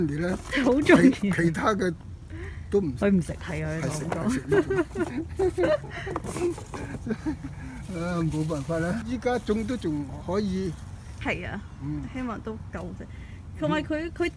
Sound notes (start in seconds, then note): 9.4 laughing